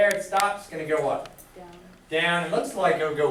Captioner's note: voiceover